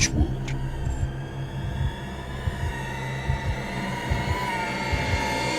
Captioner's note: high pitched whining